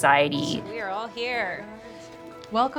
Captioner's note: chatter around the table